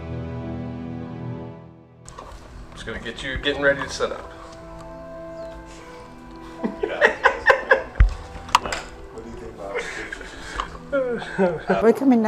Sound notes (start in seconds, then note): 6.5 laughing